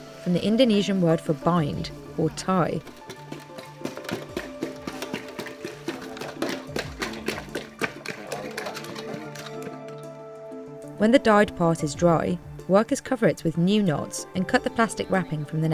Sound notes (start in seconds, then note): 4.5 bottle pounding